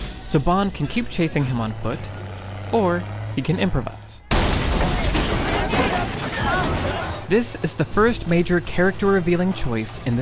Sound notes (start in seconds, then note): 4.3 truck crashing